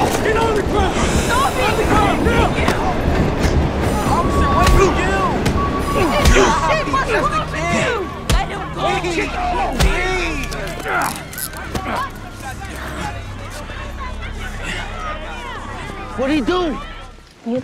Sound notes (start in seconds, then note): 10.3 people chattering